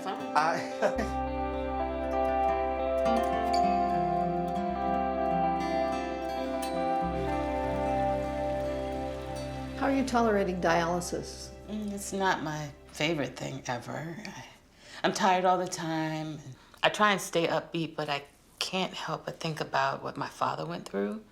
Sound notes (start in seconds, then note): 0.5 E.J. laughs; 1.3 soft plucking music; 6.9 water rustling softly